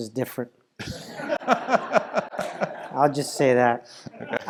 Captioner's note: laugh